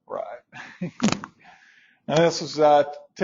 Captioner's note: chuckles